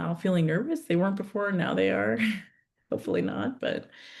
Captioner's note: chuckles